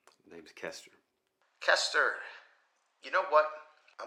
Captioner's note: Marco On Phone